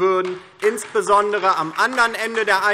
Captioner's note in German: Beifall DIE LINKE